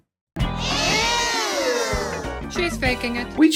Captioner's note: class of kids proclaim EWWWWW